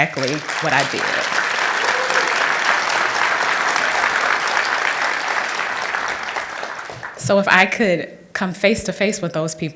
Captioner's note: applause